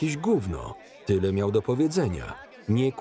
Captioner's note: men arguing